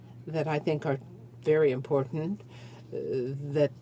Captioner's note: speaking in French